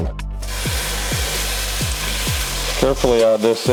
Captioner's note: pan sizzling